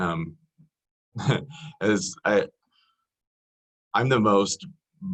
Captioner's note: laughs